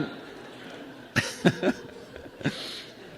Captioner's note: laughs